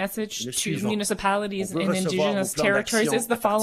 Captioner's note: speaking French